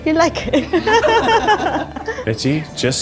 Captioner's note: laugh